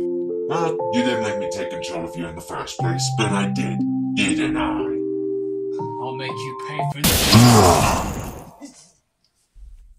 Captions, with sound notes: Well, you didn't let me take control of you in the first place, but I did, didn't I? I'll make you pay for th-- *electric shock* *Puppeteer roars*